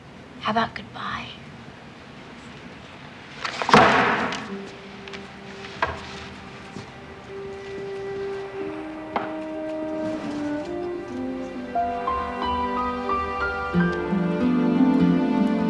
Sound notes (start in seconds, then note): 3.4 slams; 11.8 ambient music playing